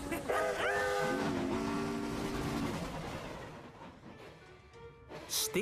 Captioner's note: whoosh!